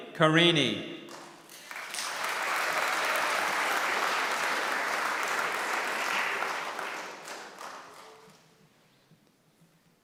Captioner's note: applause